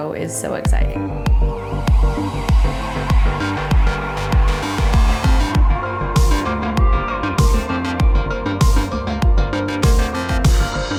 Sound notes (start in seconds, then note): 1.1 siren sound; 2.2 lively music